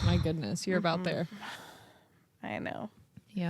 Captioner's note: sighs